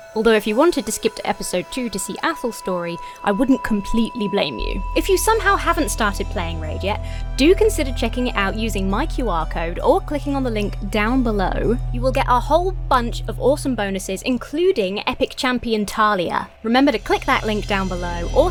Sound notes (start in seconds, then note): none